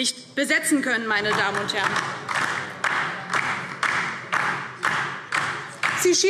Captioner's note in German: Beifall DIE LINKE